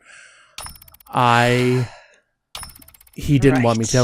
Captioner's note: sighs